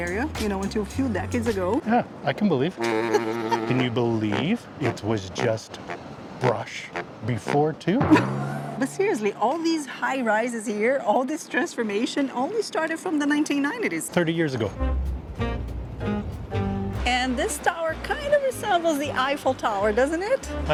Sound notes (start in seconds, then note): 8.0 laughs